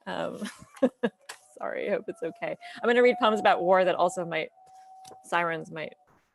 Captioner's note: laughs